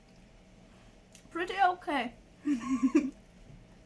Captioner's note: giggles